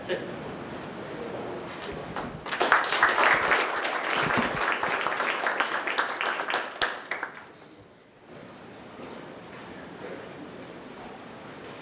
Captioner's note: applause